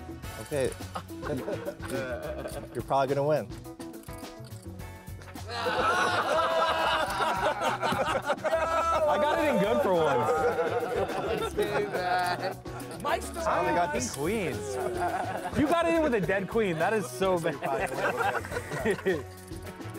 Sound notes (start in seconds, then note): 5.4 laughing; 10.9 laughing; 17.9 laughing